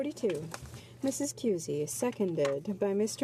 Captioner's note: speaking French